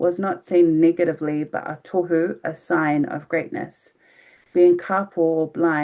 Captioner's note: speaking in foreign language